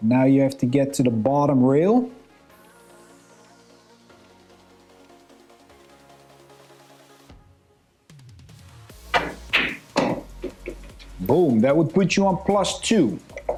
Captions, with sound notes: Now you have to get to the bottom rail. (lively music) (balls clanging) Boom, that would put you on plus two.